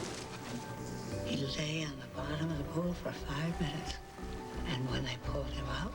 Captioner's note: female voice